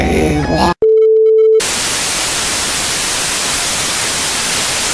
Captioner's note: static